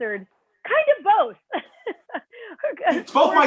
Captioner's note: laughter